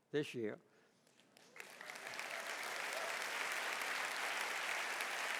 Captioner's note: audience applauding